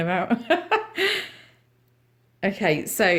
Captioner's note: laughter